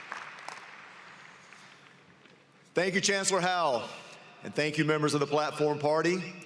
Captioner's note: applause